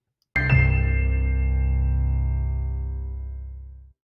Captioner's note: chiming bells